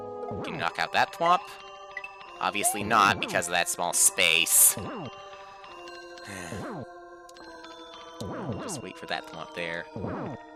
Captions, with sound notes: Can we knock out that Thwomp? Obviously not, because of that small space. (*sigh*) Just wait for that Thwomp, there.